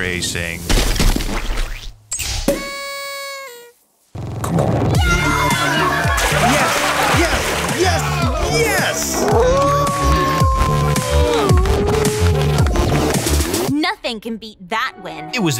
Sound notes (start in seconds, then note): 0.7 splat; 2.5 celebratory horn; 5.4 party music; 9.0 howling